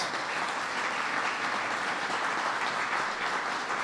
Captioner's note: applause